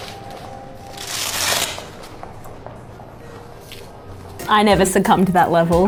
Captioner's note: velcro tearing